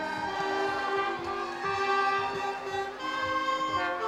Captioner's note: crowd cheering